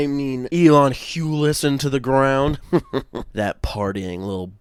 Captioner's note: evil laugh